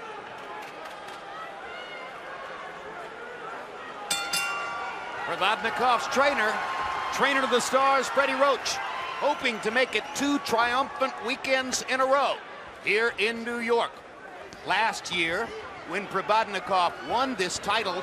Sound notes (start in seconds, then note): 4.1 bell rings